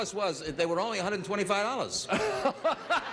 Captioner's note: Bert laughing